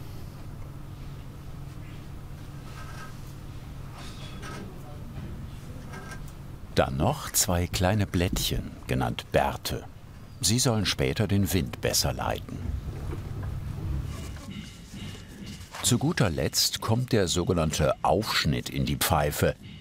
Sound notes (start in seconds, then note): 14.4 distant hammering